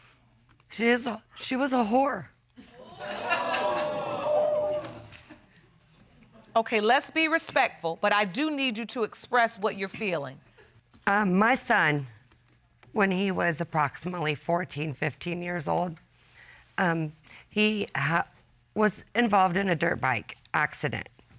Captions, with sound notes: She is a-- She was a whore. [audience exclaims] Okay, let's be respectful, but I do need you to express what you're feeling. Um, my son... when he was approximately 14, 15-years-old, um, he ha-- was involved in a dirt bike accident